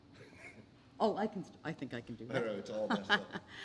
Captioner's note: laugh